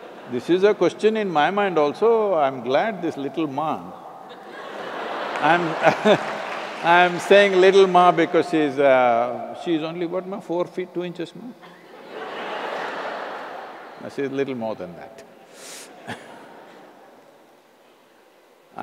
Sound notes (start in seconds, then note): 4.3 laughter/Applause; 13.1 laughter